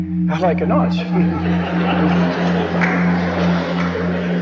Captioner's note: all laughing